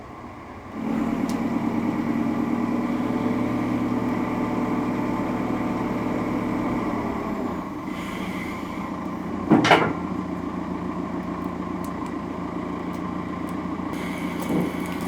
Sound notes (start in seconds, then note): 9.5 metals thudding; 10.5 engine revving